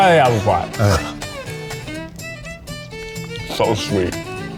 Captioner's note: bouncy music; chewing